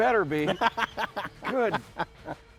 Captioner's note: laughs